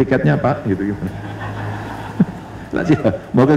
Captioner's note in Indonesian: tertawa